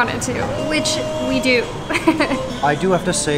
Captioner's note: laughs